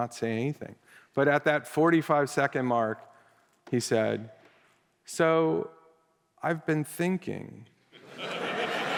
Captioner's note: laughter